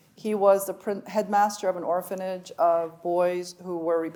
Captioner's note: none